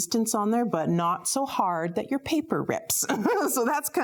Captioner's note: laughs